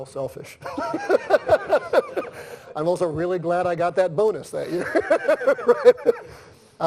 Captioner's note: laughs